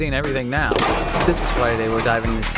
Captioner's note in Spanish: sonido de objetos cayendose